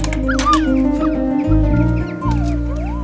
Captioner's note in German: Musik wird schneller; Aufgeregtes Winseln